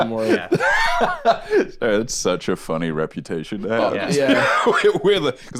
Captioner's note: laughs